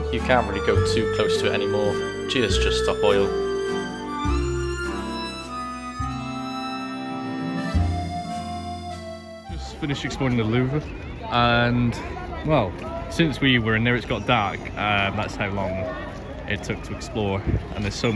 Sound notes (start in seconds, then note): 3.3 obvious sarcasm